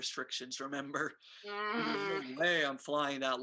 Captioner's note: Nicki groans